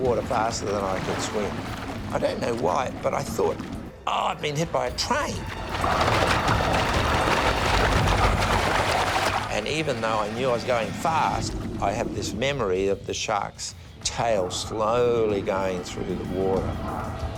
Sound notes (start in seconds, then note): 6.5 thrashing and splashing; 17.2 voiceover